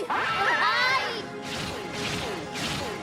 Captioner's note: screams